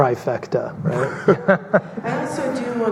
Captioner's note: laughing